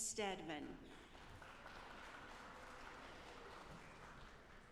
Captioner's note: audience applauding